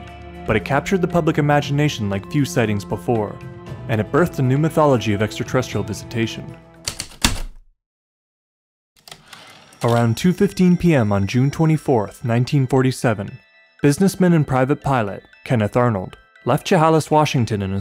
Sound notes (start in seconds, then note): 6.8 typewriter keystrokes, return slide